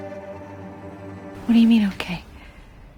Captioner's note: voiceover